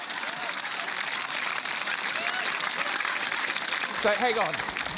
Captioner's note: laughter, applause